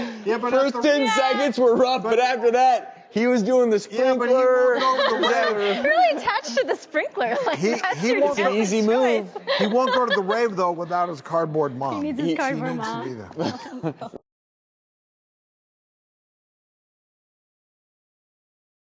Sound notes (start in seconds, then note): 7.4 laughs